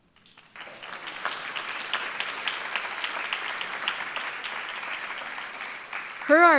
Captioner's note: applause